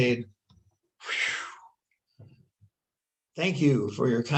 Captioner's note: exhales